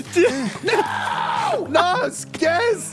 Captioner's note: laughs weakly